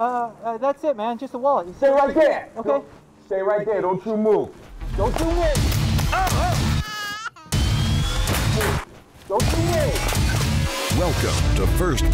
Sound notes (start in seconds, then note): 5.2 intense action music; 6.0 baby crying; 6.1 screaming; 9.4 intense action music